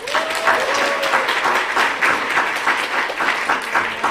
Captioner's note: applause